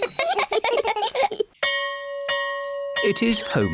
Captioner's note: all giggle; bell rings